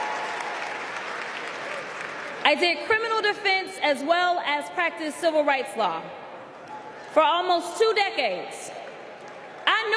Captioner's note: applause